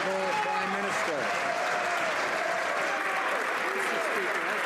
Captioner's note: some Applause